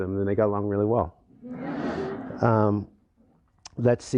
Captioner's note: laughter